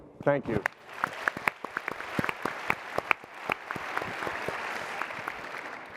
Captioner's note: applause